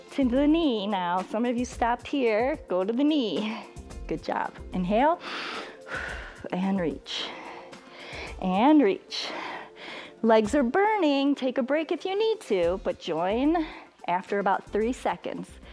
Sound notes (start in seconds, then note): 5.2 inhales and exhales